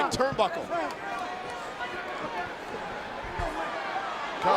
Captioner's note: crowd shout